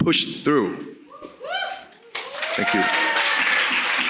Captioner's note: audience cheering